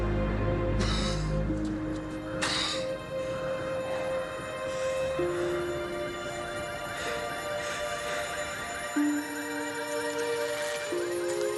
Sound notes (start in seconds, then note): 8.8 alarms blare